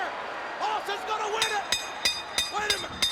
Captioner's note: metal clanging